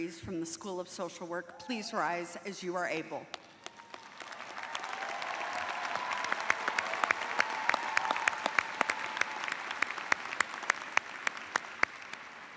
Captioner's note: cheers and applause